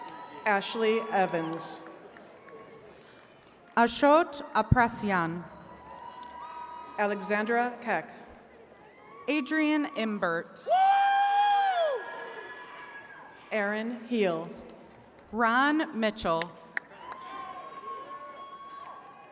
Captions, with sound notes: - Ashley Evans. - Ashutt Apresiyan. - Alexandra Keck. - Adrian Embert. (attendees cheering) - Aaron Heal. - Ron Mitchell.